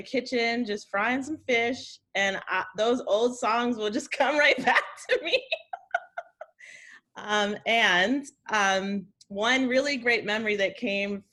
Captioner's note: laughs